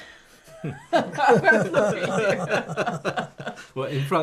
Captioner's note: laughter